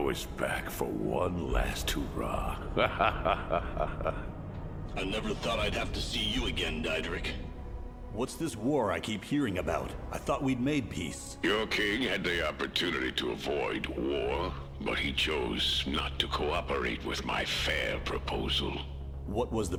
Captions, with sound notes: - The hero is back for one last hurrah. (laughing) - I never thought I'd have to see you again, Diederick. What's this war I keep hearing about? I thought we'd made peace. - Your king had the opportunity to avoid war, but he chose not to cooperate with my fair proposal.